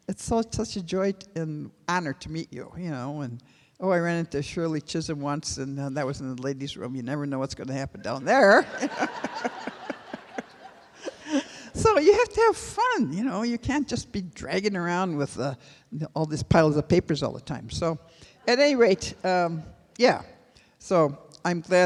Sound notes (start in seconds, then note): 12.4 laughter